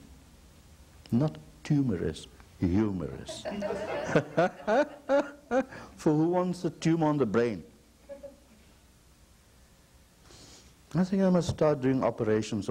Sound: laughter

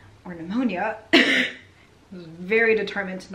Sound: coughing

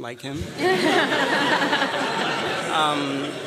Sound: laughter

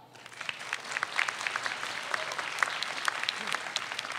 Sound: audience applauds

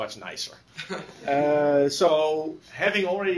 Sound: laughter

